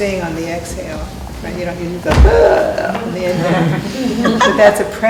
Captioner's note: gasps while inhaling